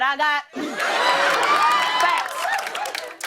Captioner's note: cheers and applause